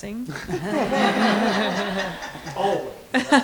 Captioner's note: laughter